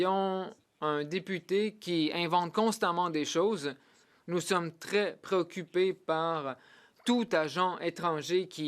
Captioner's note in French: voix de l'interprète